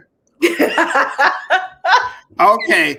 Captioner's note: laughter